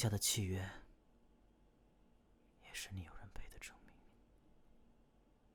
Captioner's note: whispering